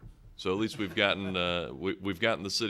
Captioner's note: chuckling